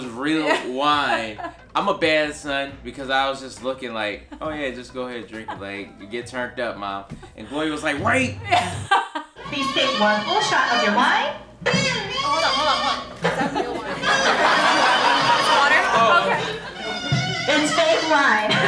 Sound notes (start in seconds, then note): 0.4 chuckles; 8.4 laughing; 14.6 guests laughing